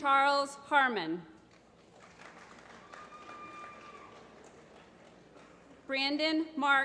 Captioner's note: applause